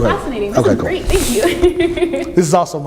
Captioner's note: laughs